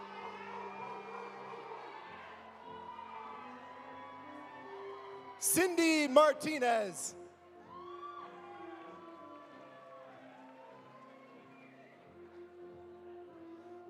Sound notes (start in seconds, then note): 7.7 audience applauding; 7.7 audience cheering